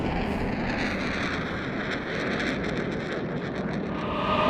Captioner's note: tense music; jet engine roaring